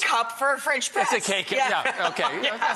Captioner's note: laughs